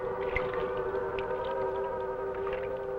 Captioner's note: water splashing